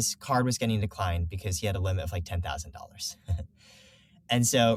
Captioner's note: laughs